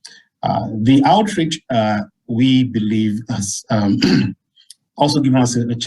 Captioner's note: clears throat